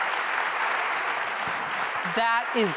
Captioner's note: applause